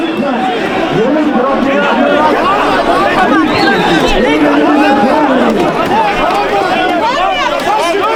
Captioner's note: indistinct shouting